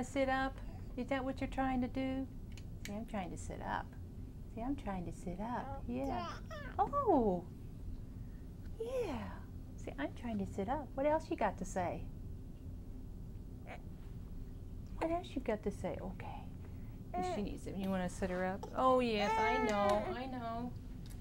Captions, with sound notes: You wanna to sit up? Is that what you're trying to do? Say I'm trying to sit up. Say I'm trying to sit up. Yeah. [Baby coos] Oooh! Yeah. Say I'm trying to sit up. What else you got to say? What else you got to say? Okay. [baby fusses] Is she.... Do you want to sit her up? Oh yes, I know. I know.